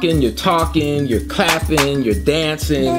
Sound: hands clapping; baby laughs

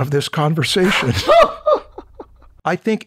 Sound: laughter

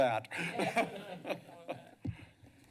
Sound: laughter

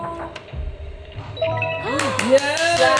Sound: buzzer chimes brightly; clapping

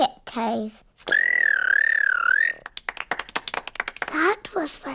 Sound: whistles

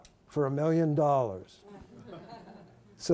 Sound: laughter

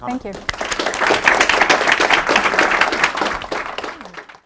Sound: audience applauding

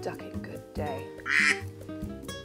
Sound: piano music; duck quacks

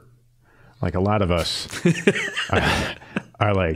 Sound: laughing

